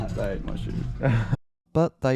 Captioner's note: laughs